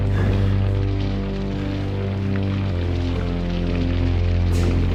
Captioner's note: Carling breathes heavily